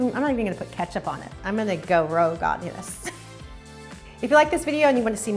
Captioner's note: laughs